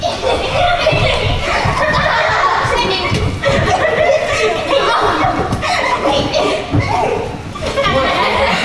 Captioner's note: laughter